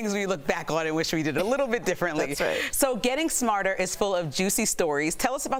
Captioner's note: laughter